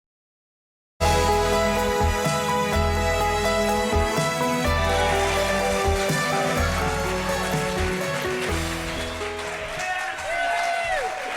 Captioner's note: cheering and applauding